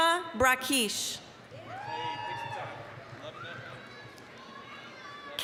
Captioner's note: applause, cheering